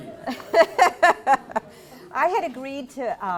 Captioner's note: laugter